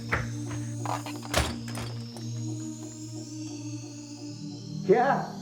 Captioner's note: sound of door opening